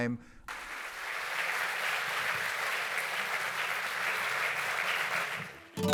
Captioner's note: applause